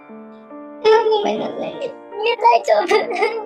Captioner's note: cries